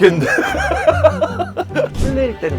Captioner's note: laughs